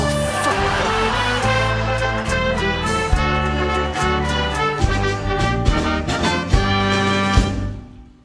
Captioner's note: audience laughter and applause